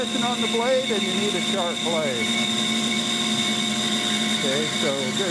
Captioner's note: bandsaw roaring